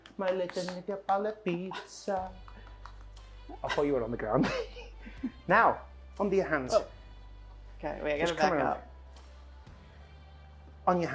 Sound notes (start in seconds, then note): 4.4 laughs